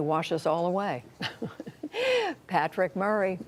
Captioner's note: laughter